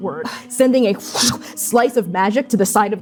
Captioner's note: gasping in exertion; slashing